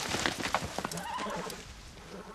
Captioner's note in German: Wiehern